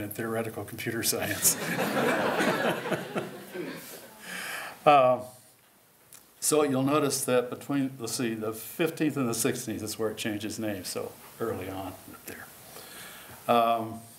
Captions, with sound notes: in theoretical computer science. [LAUGHTER] So you'll notice that between-- let's see-- the 15th and the 16th is where it changes names, so early on up there.